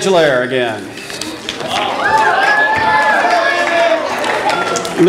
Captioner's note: audience applause